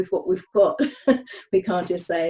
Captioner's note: speaker laughs